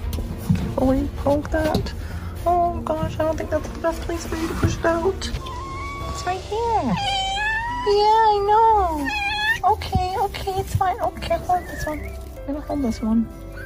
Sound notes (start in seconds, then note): 10.7 cat Meowing; 12.5 kitten Mewing